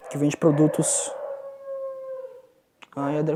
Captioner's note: barks